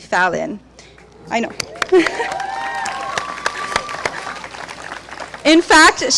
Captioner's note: clapping